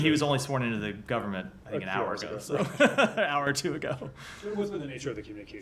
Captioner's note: laughter